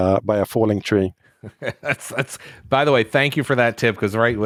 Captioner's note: laughs